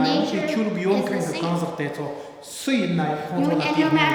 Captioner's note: speaking tibetan